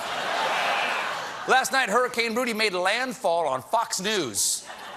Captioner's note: laughter